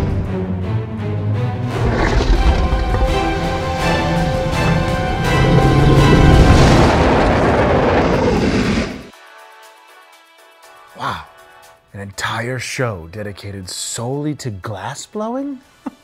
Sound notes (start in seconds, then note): 0.2 dramatic music; 7.4 torching noise; 9.1 jazzy music